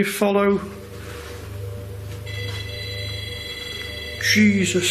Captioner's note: beeping